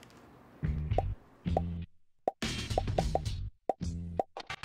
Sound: popping sounds

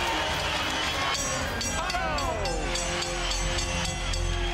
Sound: bell dinging

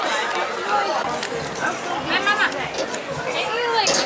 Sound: crowd chattering

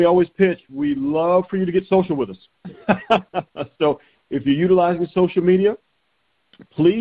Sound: chuckling

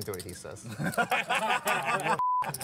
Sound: laughter

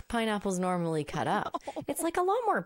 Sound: laughing

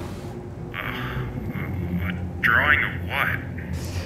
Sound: sighs

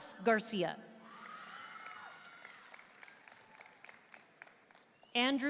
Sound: audience cheering and applauding

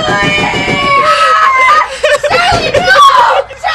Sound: screaming

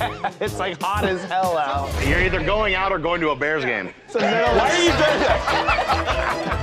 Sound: laughter

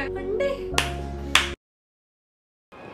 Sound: claps from happiness

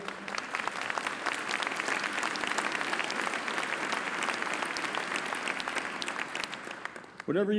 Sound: applause

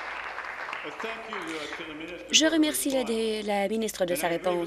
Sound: applause

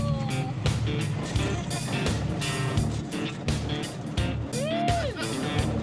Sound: laughs

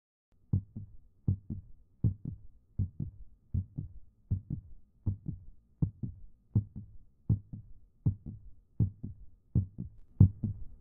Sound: heartbeat; louder heartbeat

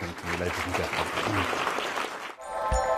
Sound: applause

